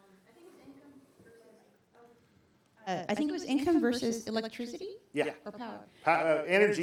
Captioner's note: speaking off microphone